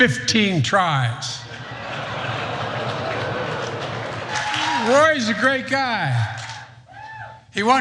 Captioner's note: laugh